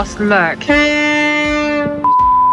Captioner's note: loud ferry horn sounds